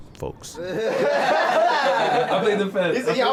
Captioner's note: laughing; chattering